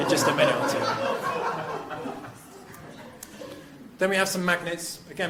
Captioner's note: crowd laughing